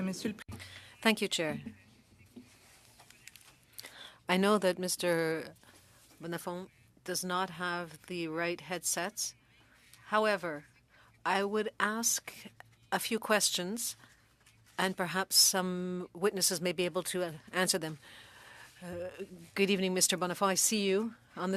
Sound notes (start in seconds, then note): 5.8 speaking French